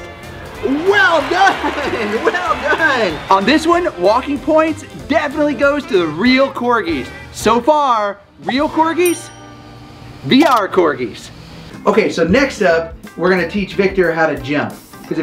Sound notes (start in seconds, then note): 0.6 audience cheering; 9.0 scoreboard dings